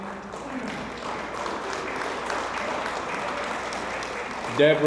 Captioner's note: audience applauds